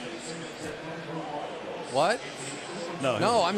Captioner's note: pa announcement